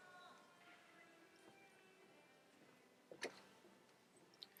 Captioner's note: none